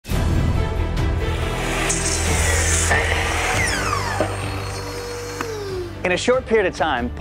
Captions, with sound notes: (dramatic music) (saw whirring) - In a short period of time,